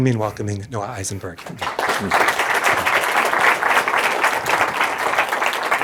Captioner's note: applause